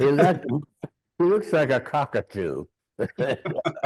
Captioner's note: both laughing